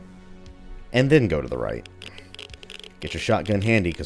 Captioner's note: geiger Counter clicking